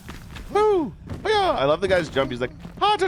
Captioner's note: fire crackles